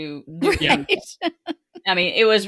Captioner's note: laughing